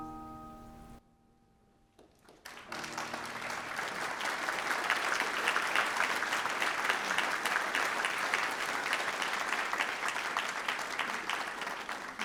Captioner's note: applause